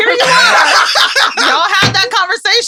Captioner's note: laughs